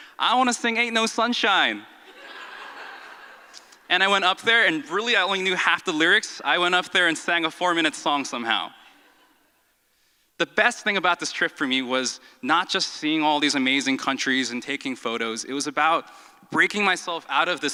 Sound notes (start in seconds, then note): 2.0 audience laughs